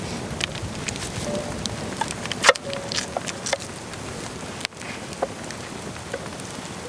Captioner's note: sounds of cutting potatoes